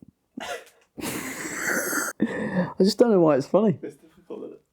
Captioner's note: laughs